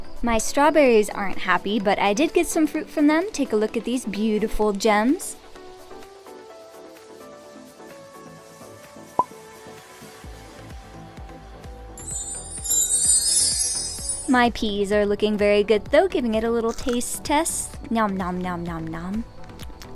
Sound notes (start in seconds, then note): 16.7 nom nom nom